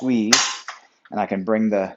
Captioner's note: rack clicks